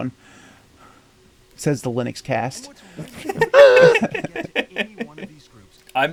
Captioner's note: all laugh in realism